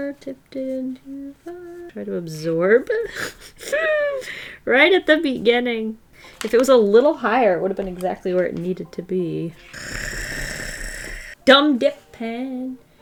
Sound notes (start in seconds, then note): 2.9 laughs